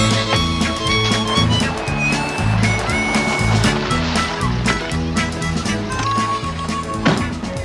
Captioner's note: engine rumbling